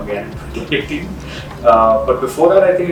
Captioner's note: laughs